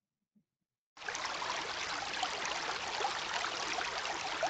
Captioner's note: water flowing